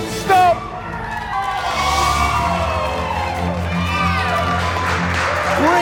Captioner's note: cheers and applause